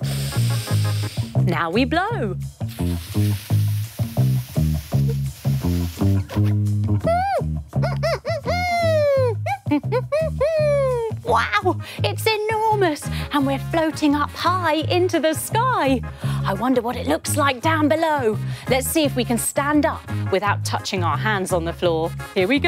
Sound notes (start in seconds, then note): 0.0 inhaling; 2.7 exhaling